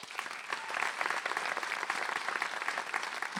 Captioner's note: applause